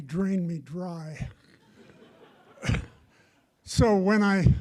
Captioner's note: audience laughs